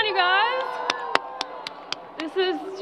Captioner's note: crowd applause